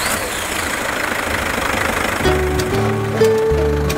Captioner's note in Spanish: arranca el motor